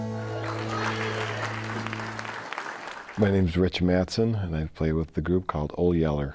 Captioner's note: applause